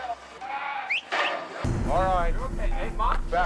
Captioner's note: whistling